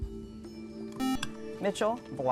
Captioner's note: buzzer